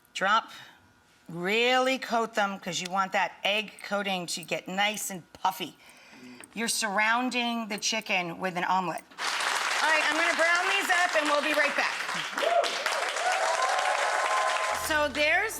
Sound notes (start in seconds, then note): 9.2 audience applauds; 13.1 audience cheers, and applauds